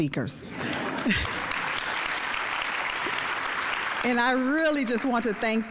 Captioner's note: audience applauding